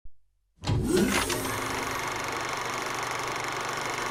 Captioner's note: film noise